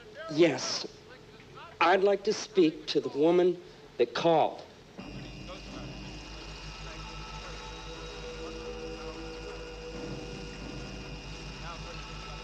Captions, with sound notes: Yes. I'd like to speak to the woman that called. [humming] [ominous music]